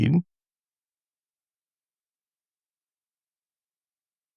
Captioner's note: blank Audio